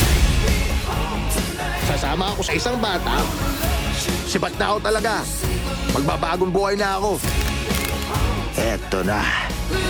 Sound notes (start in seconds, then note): 7.1 bones cracking